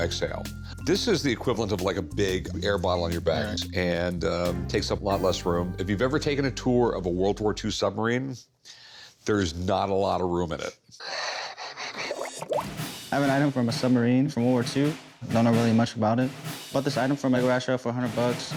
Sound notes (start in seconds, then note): 11.5 Rick laughs; 11.6 water bubbles